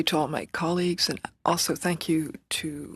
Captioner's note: speaking French